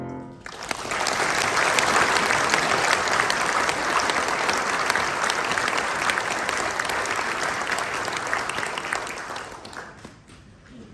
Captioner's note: applause